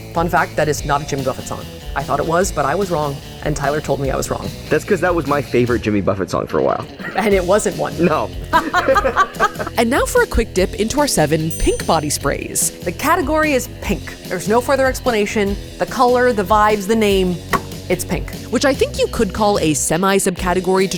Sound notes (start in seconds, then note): 8.4 laugh